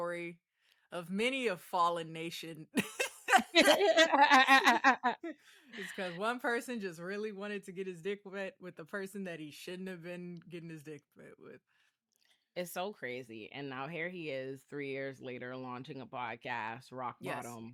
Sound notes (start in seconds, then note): 4.6 both laughing